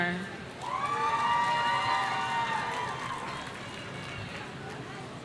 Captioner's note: audience cheering